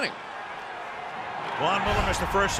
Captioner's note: cheering